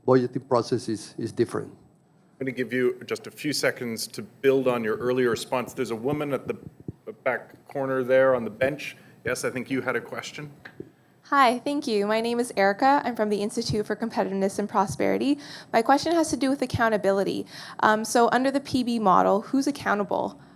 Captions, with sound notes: process is different. - [Voiceover] I'm gonna give you just a few seconds to build on your response. There's a woman at the back corner there on the bench, I think you had a question. - [Voiceover] Hi, thank you. My name is Erica, I'm from the Institute for Competitiveness in Prosperity. My question has to do with accountability. So, under the PB model, who's accountable?